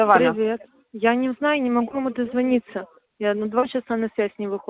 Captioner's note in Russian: говорят по-русски